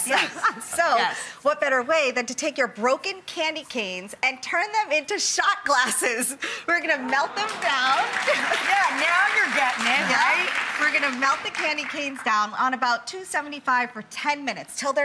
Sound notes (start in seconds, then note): 8.6 audience applauds